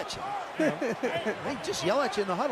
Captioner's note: laughs